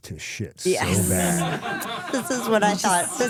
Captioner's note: crew members laughing